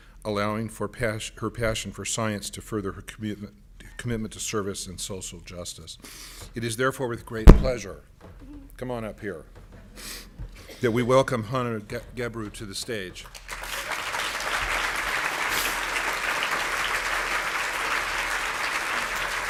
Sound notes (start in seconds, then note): 13.2 applauds